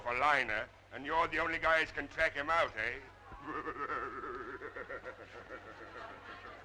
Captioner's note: laughing